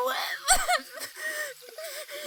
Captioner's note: cries